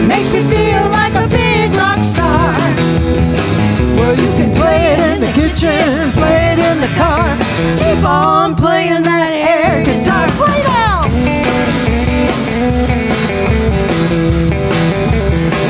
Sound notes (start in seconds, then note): 9.8 shouts; 12.3 rock music continues